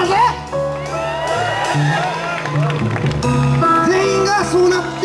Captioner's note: audience applauds